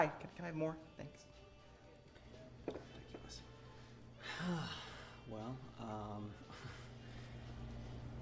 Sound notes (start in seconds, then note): 4.2 sighs